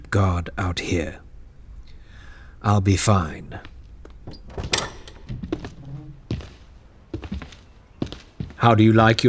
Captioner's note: door opens and footsteps enter